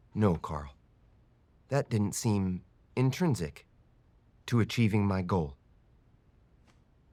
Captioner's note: none